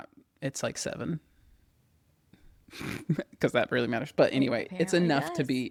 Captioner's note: laughs